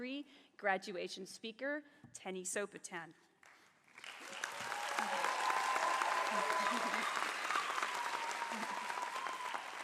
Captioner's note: applause